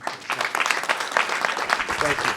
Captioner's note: applause